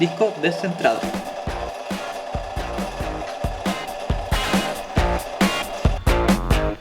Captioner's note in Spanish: sonidos de taladro